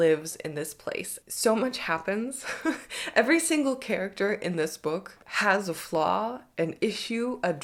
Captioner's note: chuckles